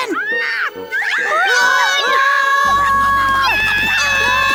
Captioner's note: screaming